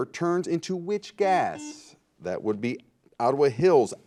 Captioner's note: buzzer